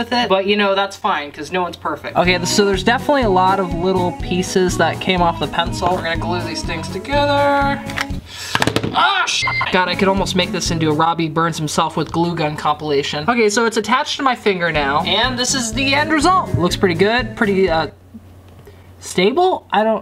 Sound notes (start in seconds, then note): 9.4 beep